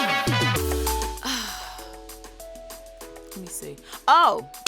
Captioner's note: bright music; Monique sighs